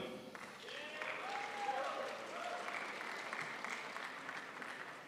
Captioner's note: crowd applauds